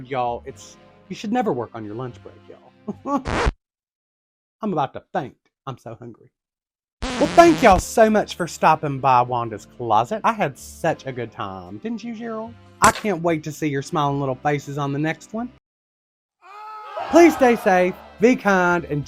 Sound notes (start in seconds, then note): 2.0 weak chuckle